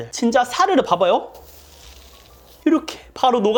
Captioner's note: crackle